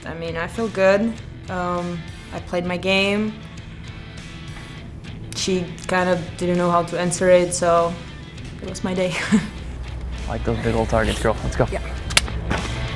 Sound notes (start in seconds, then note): 8.8 laughs